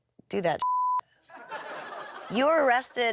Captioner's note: audience laughs